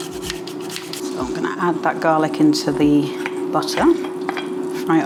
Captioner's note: sizzle